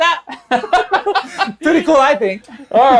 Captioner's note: all laughing